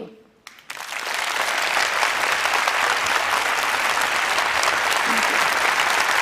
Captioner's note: applause